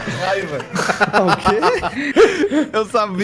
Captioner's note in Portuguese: risadas